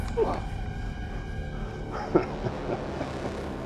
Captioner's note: laughs